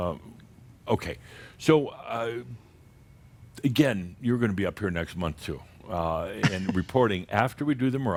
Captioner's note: she chuckles